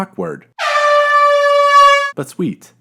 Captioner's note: airhorn